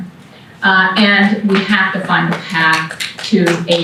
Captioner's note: applause